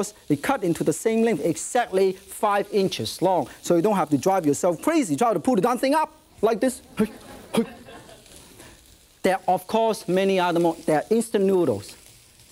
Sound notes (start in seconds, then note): 6.8 audience murmurs